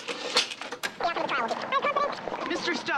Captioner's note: fast-forwarding